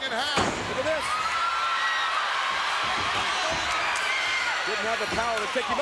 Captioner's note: crowd cheers